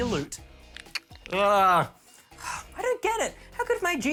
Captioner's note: sighs